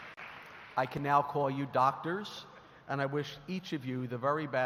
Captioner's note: applause